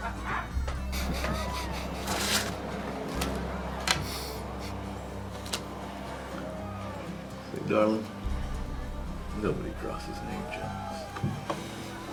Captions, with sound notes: (Nate chuckling) - See, darling, nobody crosses Nate Jones.